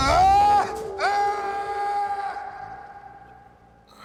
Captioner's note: Stephen yelling